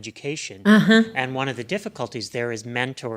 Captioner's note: voiceover